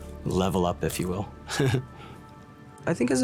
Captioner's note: laughs